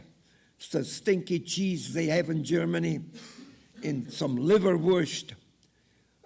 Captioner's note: audience laughing